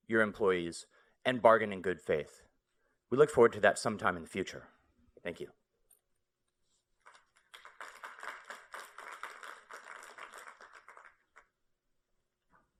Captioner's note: applause